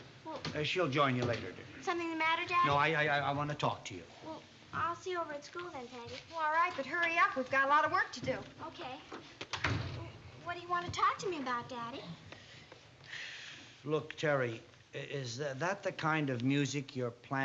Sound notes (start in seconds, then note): none